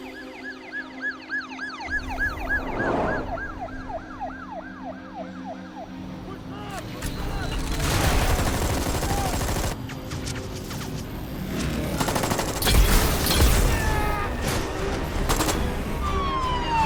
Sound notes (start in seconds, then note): 8.8 guns firing; 13.7 loud blasting; 13.8 man screaming; 15.9 siren wailing